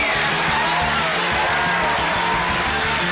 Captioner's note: cheering, applause